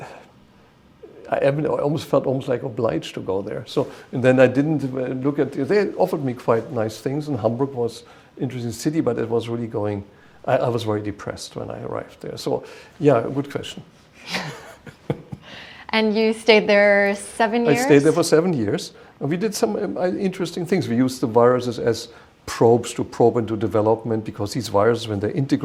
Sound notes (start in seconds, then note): 14.2 chuckle